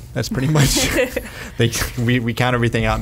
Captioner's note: laughs